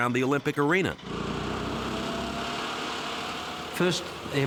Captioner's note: airboard whirring